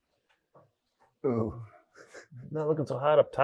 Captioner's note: chuckles